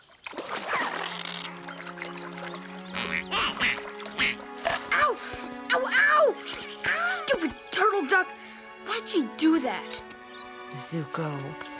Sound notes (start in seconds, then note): 0.2 squealing; 2.9 quacking